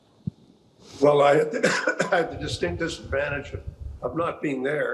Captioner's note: coughing